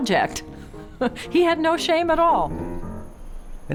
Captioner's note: laughs